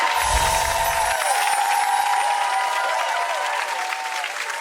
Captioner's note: audience applauding; bells chiming